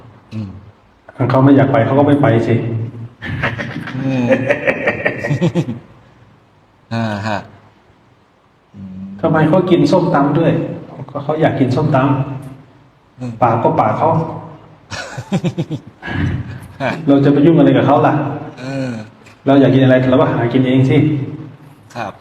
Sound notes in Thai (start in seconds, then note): 3.2 เสียงหัวเราะ